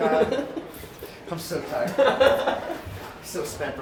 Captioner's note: laughs